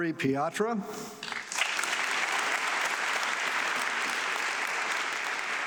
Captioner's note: audience clapping